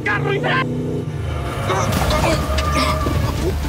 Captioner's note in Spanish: Chirrido de llantas